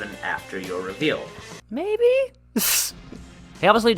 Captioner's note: laughs